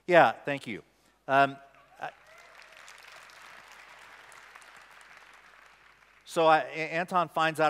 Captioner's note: applause